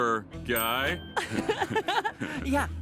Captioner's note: both laugh